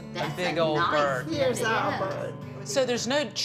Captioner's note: women chattering